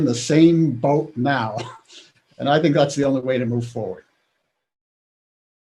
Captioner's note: laughs